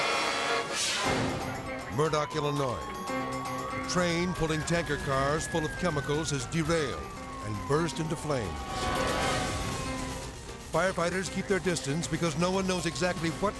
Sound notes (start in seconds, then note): 0.3 graphics whooshing; 2.7 siren blaring; 8.6 siren blaring